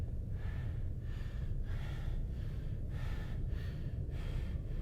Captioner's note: heavy breathing